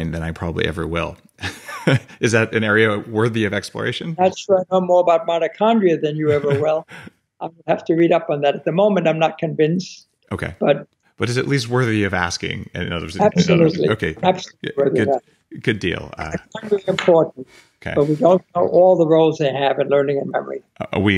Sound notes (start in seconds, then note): 1.4 laughing; 6.2 laughing